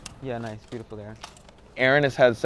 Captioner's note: camera clicks